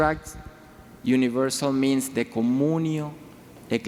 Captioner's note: speaking in foreign language